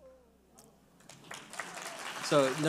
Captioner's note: audience applauds